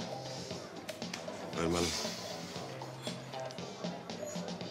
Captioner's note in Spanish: palmadas